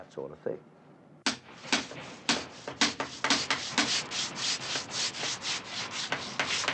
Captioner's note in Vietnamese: Tiếng mài, gõ